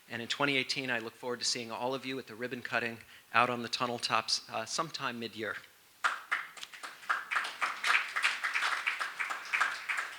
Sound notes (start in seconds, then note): 6.0 applause